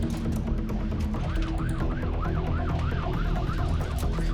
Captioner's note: intense music; sirens wailing